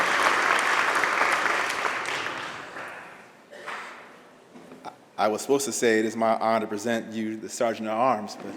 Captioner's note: applause